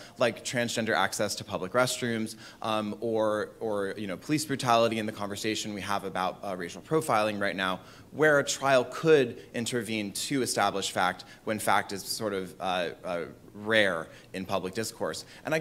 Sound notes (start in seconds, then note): none